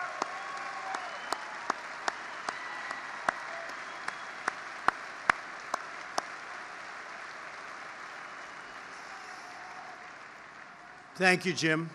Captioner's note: applause